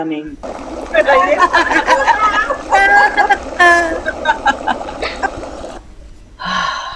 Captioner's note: all laughing